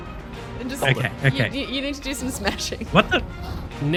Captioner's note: laughs